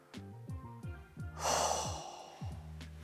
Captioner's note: sighs